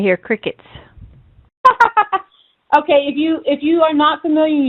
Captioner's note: laughs